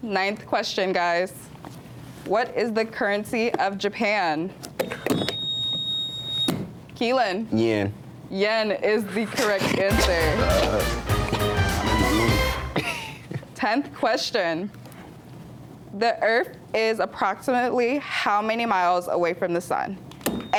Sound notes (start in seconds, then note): 4.8 buzzer beeps; 9.9 triumphant music